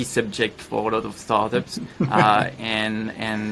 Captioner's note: laughs